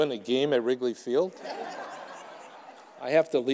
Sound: audience laughing

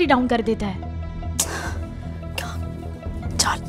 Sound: clicks tongue

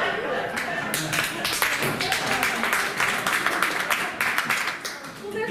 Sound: applause

